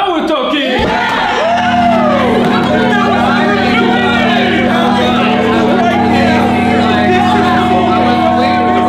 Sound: Sound of everyone cheering at this genius idea except for Larry

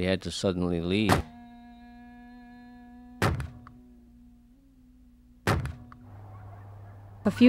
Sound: cans thudding

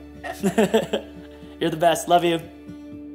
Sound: laughs

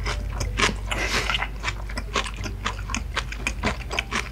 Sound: snort of truth

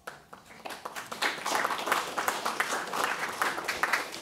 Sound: audience applauding

